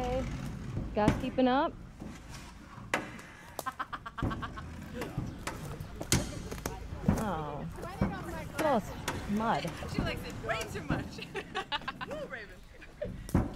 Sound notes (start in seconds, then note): 3.4 joking/laughter/chatter; 11.3 more chatter